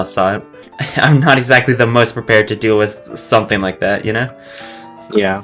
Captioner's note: chuckles